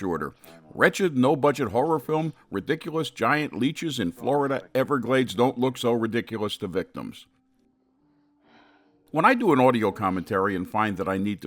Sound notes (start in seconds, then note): 8.7 Nan sighs